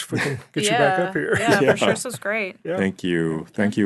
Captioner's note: laughing